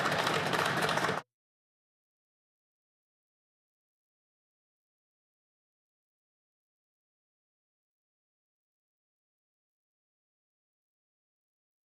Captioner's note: some Applause